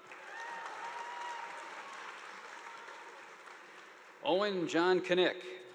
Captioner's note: audience applauding